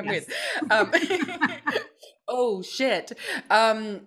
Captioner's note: both laughs